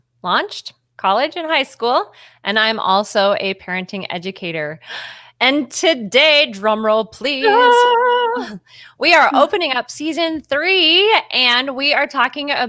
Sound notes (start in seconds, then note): 7.4 cheers